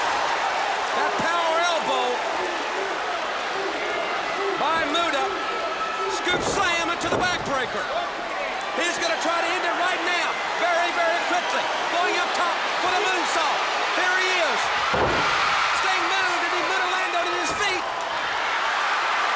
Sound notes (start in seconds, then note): 8.3 crowd cheering